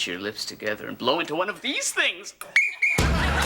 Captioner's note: Kevin whistle